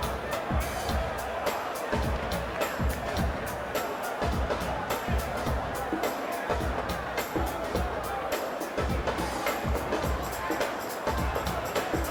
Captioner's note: crowd chatter